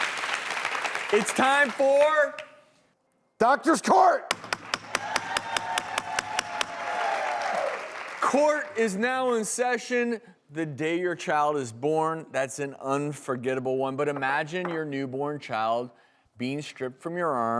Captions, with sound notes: (applause) It's time for. Doctors court. (gavel smacking) (cheering) (applause) Court is now in session. The day your child is born, that's an unforgettable one. But imagine your newborn child being stripped from your arms